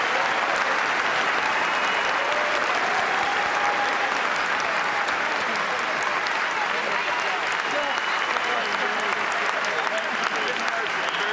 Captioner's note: cheers and applause